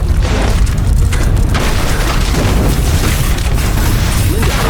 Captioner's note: devastation roaring as people run